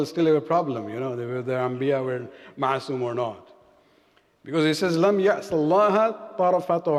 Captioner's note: arabic